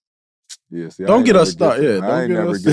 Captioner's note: chattering